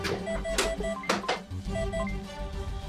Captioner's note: ship beeping; tense instrumental music